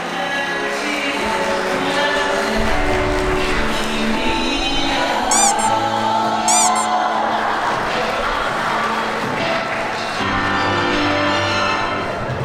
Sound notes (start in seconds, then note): 5.1 pat, pat; 5.2 handshake